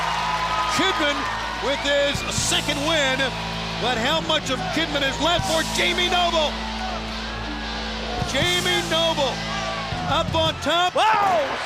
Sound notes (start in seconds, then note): 4.2 crowd cheering